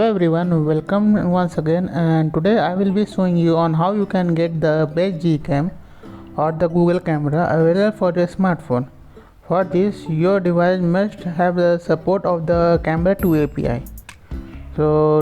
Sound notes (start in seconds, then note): 11.3 Arabic; 12.8 Vietnamese